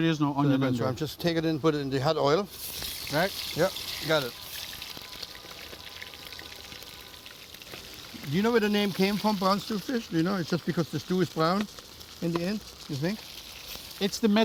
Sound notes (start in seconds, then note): 2.9 sizzling; 4.0 horns honking in distance